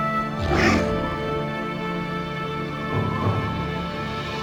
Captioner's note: dramatic music; raptor growls